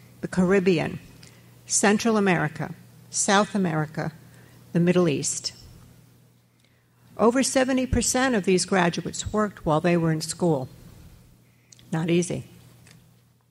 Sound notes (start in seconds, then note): none